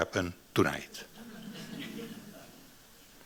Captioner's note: audience chuckling